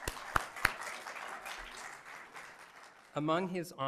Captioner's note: applause